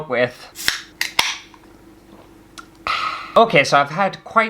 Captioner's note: can Opening, Slurp, AHH